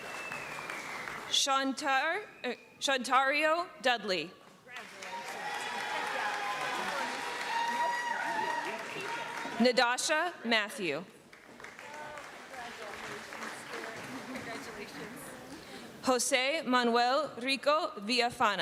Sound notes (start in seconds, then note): 4.6 applause; 8.2 cheering; 11.2 applause